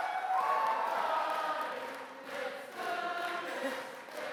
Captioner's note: chanting